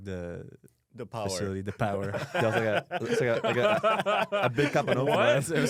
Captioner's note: laughs